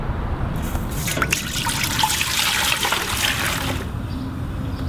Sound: pouring

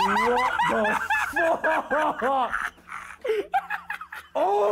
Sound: Ethan cackles

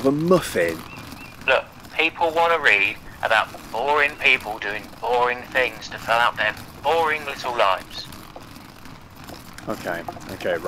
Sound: simon on phone

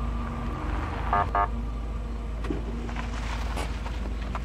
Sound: siren beeping

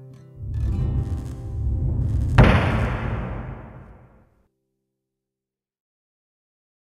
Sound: electricity buzzing; navel thuds

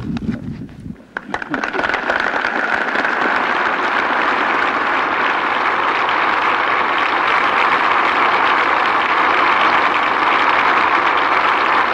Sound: applause

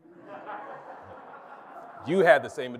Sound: congregation laughs

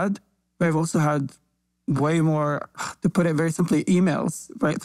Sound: sighs

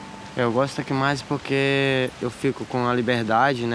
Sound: Brazilian spoken audio

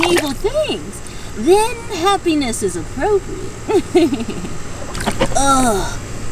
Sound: laughs

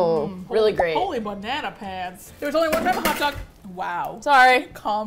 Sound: stuff clatters

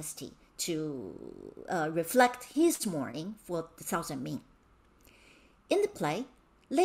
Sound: speaking in Mandarin

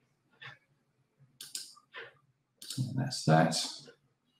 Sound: mouse clicking

